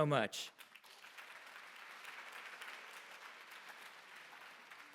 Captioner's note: applause